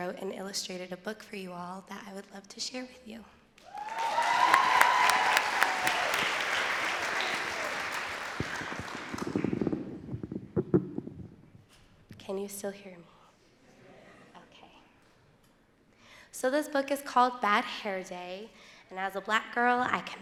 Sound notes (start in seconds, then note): 6.3 audience cheering and clapping